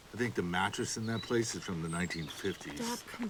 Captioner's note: none